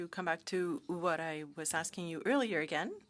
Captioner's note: speaking French